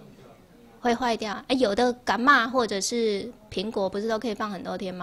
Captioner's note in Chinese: 台語